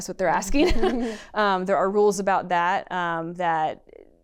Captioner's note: laughter